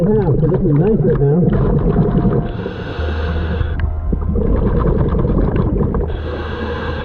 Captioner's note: breathing heavily